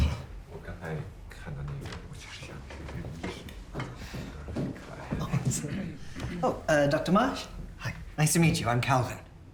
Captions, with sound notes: (Jian speaking quietly) - Oh, Dr. Marsh, hi, nice to meet you, I'm Calvin.